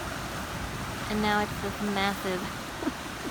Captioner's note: laughs